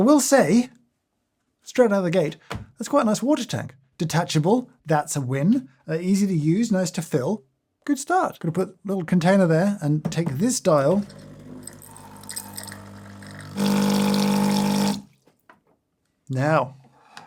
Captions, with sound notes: I will say, straight out of the gate, that's quite a nice water tank. Detachable. That's a win. Easy to use, nice to fill. Good start. Gonna put a little container there and take this dial. (machine whirs) Now.